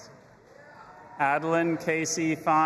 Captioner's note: audience applauding and cheering